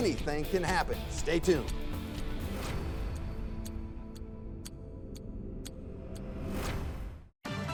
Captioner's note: clock ticking; dramatic music